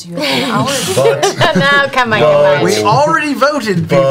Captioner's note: laughter